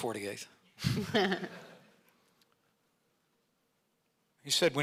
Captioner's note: audience laughing